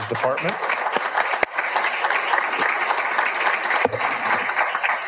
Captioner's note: all applauding